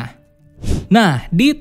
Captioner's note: transition sound